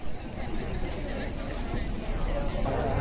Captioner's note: people speaking